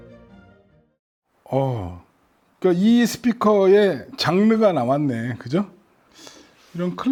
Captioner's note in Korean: 감탄